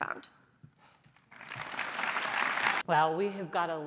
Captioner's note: applause